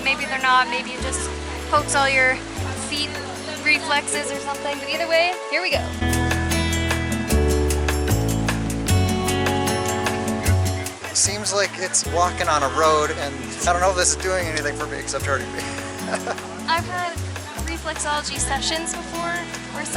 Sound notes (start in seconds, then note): 6.3 upbeat music; 16.0 laughing